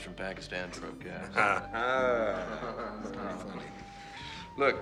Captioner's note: chuckles